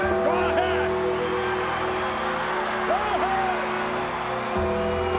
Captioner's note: audience cheering; McMahon vocalizing